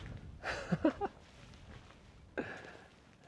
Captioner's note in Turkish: kahkaha